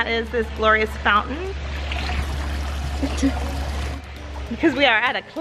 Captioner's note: water tinkles